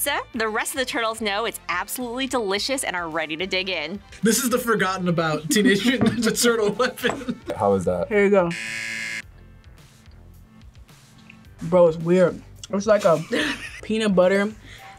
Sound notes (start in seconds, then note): 8.5 buzzer